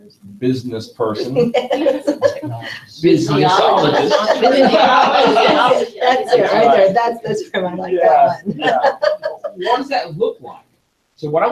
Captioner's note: laughter